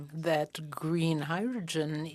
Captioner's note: speaking FRENCH